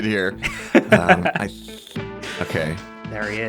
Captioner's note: laughs